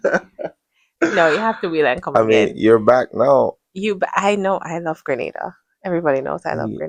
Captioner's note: clears throat